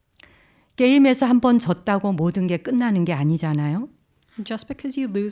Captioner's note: speaking in Korean